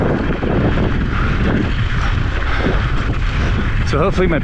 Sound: wind whipping

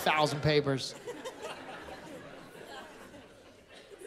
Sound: laughter

